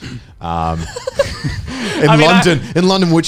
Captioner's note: laughing